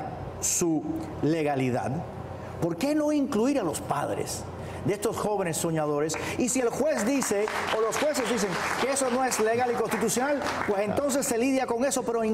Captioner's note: speaking spanish